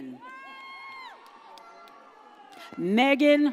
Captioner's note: audience cheers